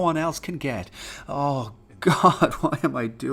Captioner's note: sigh